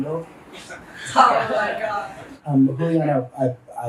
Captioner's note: everyone laughs